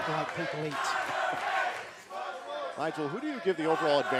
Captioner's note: fans chanting